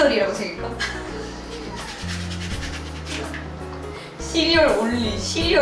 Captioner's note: hahahaha